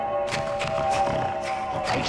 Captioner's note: swooshing; snorting